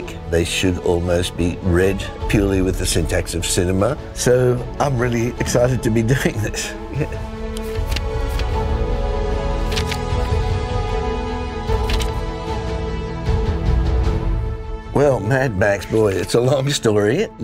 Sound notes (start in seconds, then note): 7.0 light music continues; 7.0 shutter clicking